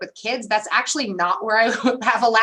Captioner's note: laughter